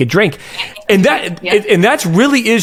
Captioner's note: speaking faintly